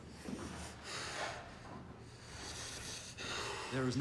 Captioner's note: Palle breathes heavily